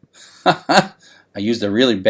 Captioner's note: laughs